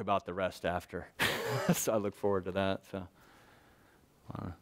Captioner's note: laughs